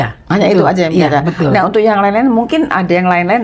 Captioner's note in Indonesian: tertawa